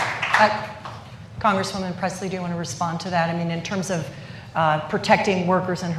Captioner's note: applause